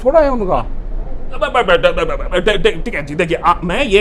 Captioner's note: stutters